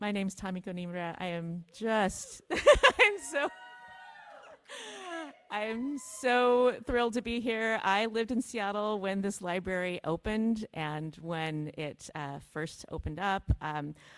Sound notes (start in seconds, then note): 2.5 laughs